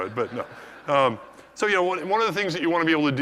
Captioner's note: laugh